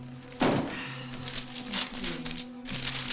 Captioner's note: Carmen sighs